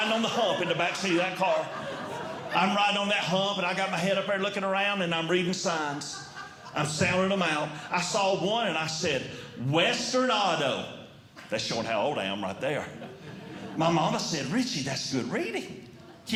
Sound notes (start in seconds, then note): 1.7 audience Laughing